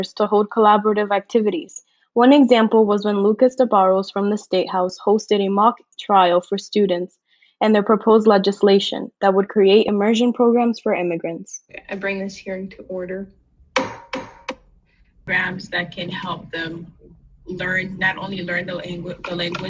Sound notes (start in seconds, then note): 13.7 gavel banging